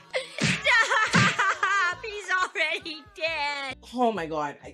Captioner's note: laughs